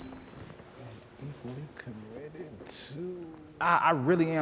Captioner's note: participants chattering